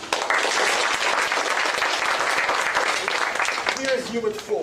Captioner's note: applause